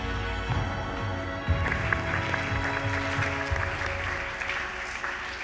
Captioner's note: applause